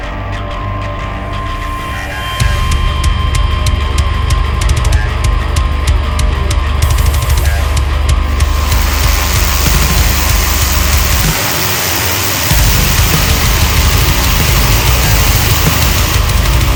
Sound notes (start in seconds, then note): 8.7 power washer hisses; 8.7 upbeat rock music